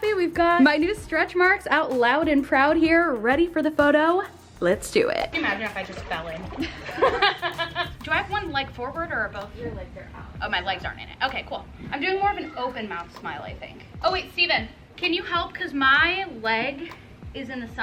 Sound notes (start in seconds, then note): 6.4 laughing